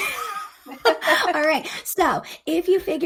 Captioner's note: chuckles